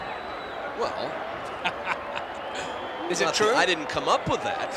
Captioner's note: laugh